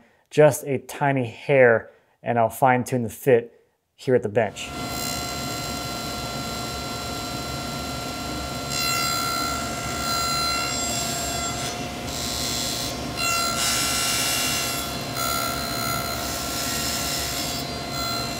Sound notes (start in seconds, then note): 4.6 machine whirring